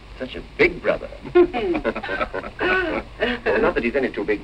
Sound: laughing

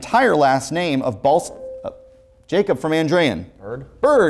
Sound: buzzer sounds

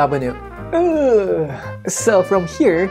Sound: groans

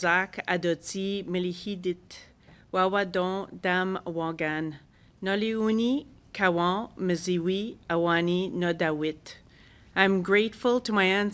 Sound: speaking French

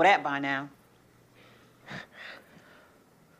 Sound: chuckles softly

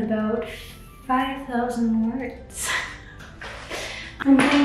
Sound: giggling

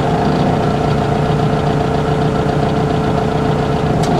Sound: motor rumbling

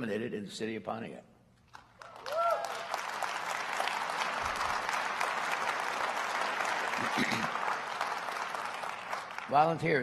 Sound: applause

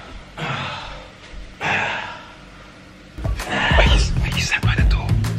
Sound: groaning and sighing

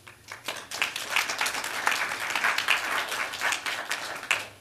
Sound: applause

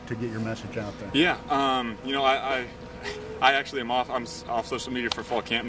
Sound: chuckles

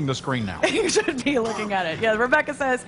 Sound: laughter

